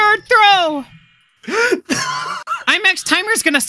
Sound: laughter

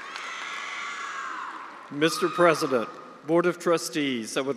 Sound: attendees cheering and applauding

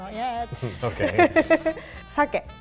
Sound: laughs; chuckles; speaks in foreign language

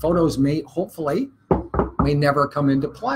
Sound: knuckles knock against desk

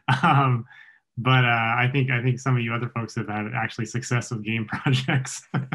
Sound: chuckles; chuckles

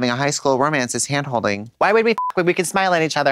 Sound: beep

